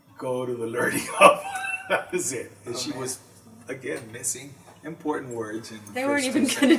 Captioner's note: laughs